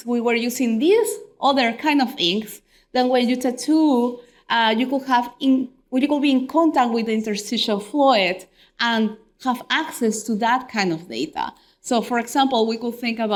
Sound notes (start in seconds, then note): none